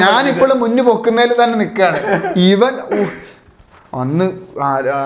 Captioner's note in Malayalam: പൊട്ടിച്ചിരി